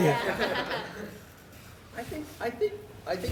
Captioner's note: laughter